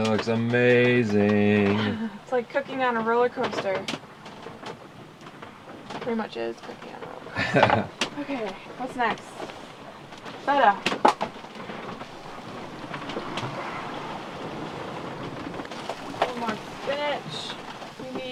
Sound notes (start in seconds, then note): 7.3 laughing